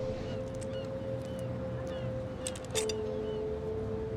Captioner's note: gulls cawing